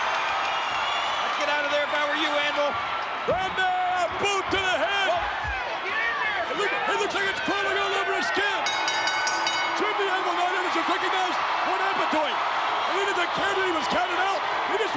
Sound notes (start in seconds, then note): 0.0 crowd cheers; 8.6 bell rings